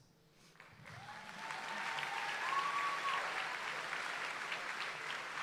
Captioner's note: audience applauds and cheers